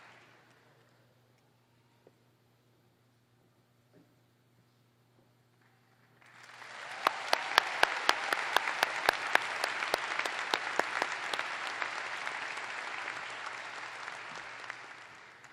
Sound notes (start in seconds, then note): 4.6 applause